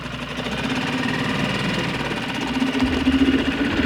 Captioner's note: engine rumbling